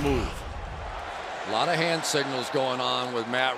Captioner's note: cheering